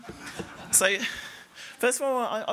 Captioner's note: laughter